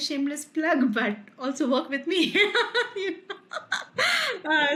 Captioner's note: laughs